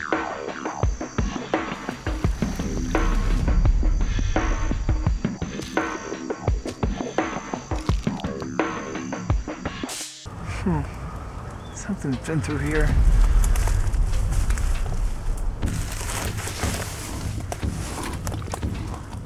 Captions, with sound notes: HMM. SOMETHING'S BEEN THROUGH HERE. [ RUSTLING ] [ ANIMAL BREATHING ]